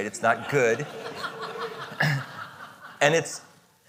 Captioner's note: audience laughing